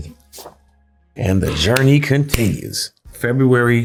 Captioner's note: clapping